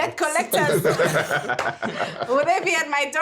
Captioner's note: everyone laughing